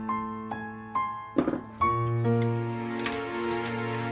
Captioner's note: metal drops